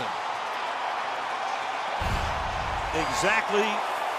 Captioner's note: crowd cheers